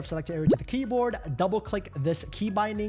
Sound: bubble pops

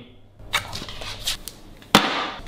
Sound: dog chews; rack thuds

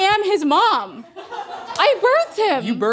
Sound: laughing

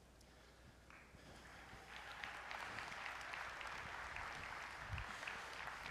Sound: applause

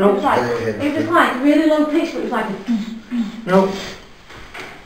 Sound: booming noise

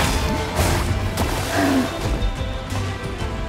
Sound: roars

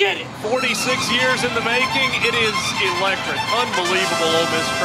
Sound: voiceover

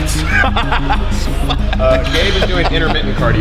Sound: laughing

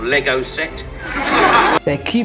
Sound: audience laughs

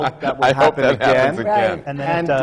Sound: laughter

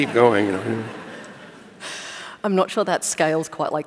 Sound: laughter

